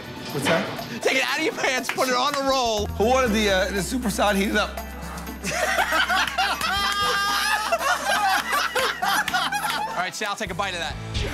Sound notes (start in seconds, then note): 5.4 laughter